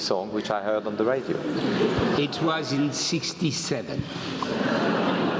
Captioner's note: laugh